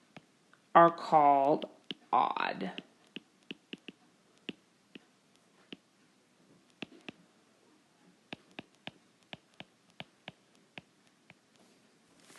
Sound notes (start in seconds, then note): 3.0 keyboard Tapping